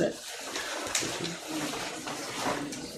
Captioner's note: audience applauding